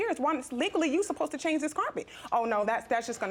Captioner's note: imitating reginald